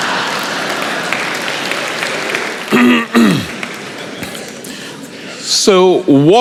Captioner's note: laughter